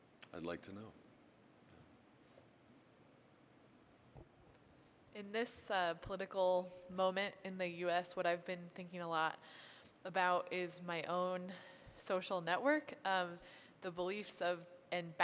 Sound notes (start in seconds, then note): none